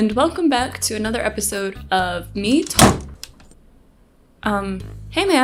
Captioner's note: door slams